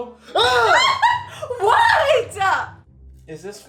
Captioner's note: laughs